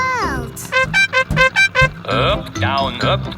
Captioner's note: horn beeping